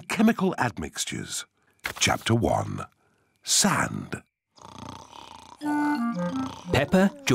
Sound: snoring

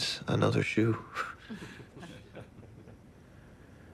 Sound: laughter

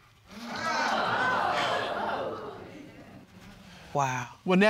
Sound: audience exclaiming

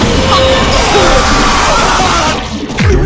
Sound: screaming

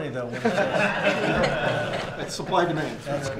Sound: laughter

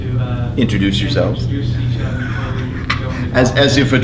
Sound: laughs

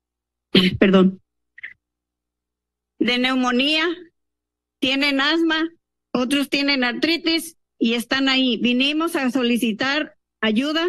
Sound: speaking in Spanish

